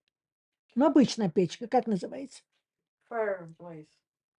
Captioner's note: Russian